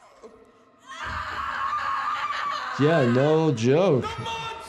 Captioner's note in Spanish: un miembro de la audiencia grita